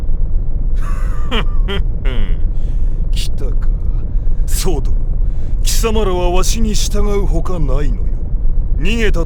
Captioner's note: chuckle